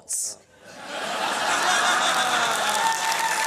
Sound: laughter and applause

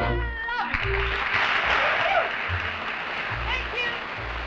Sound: audience applauding

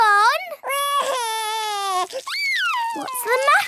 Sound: crying

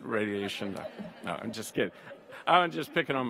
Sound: audience laughs

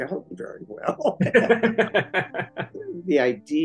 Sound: laughter

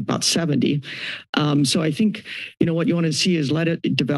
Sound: inhales

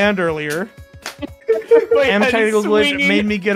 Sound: laughter

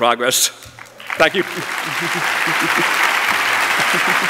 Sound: applause

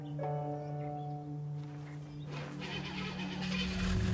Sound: engine starting

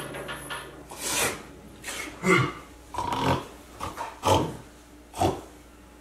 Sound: key falls loudly; ghost snoring and snorting

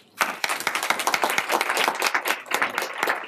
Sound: applause

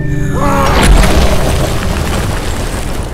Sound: durian crashing in, over the gross monster noises

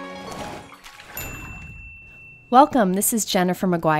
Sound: high-pitched bell dinging

